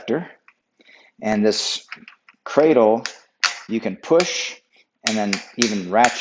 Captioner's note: rack snaps